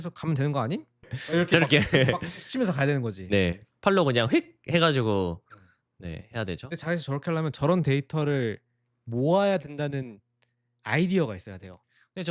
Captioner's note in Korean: 웃음